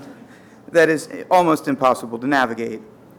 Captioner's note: audience laughter